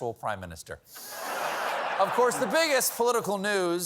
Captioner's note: laughter